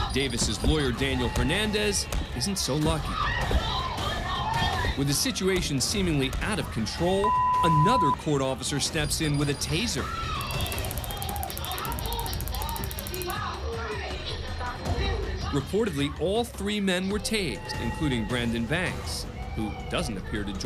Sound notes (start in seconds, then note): 10.4 taser firing